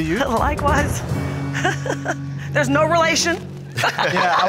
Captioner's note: chuckles softly